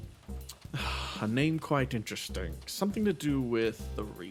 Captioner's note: sigh